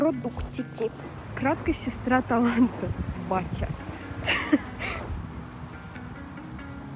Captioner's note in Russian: смех